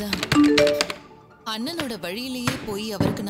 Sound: notification on phone

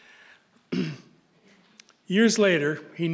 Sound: clears throat

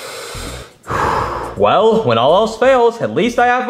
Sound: heavily sighs

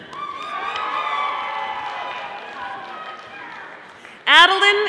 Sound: audience applauding

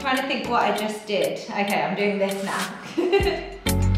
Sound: laughs

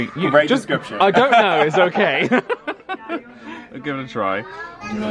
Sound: laughs

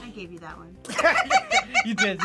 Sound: both laugh; laughs

